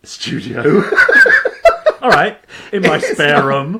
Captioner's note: laughing